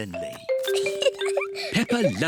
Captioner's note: giggles